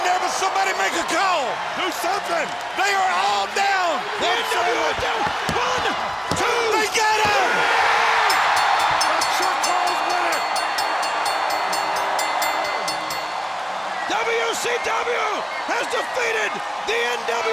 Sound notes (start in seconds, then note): 8.1 audience cheering; 8.1 bell rings